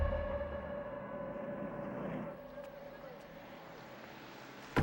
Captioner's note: car engines revving